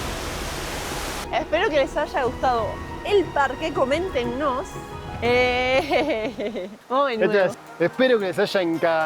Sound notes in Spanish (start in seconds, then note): 5.7 risas